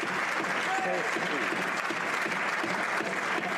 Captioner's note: some Applause